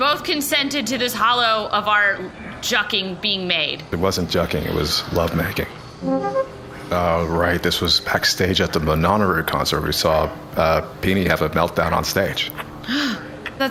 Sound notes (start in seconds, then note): 6.0 playback start sound